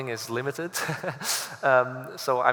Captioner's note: laughs